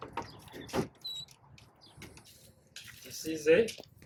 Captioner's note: door creaking